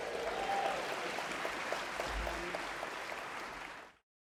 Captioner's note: applause